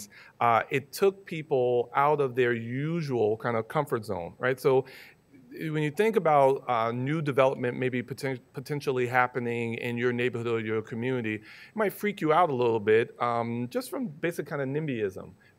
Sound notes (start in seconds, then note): none